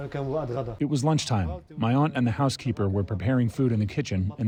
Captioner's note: through translator